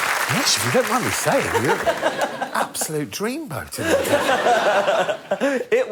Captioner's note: audience applauding